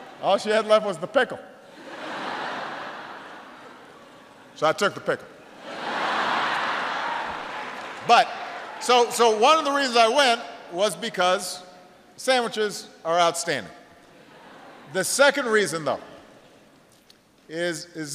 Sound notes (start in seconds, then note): 1.7 laughter; 8.2 laughter